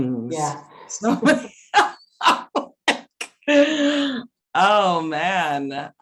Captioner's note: laughs